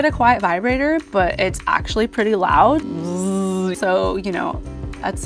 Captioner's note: imitates vibrator buzzing